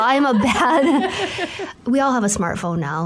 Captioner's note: laughter